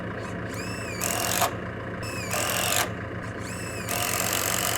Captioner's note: drill buzzing